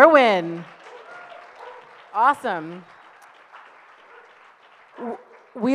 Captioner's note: audience applauds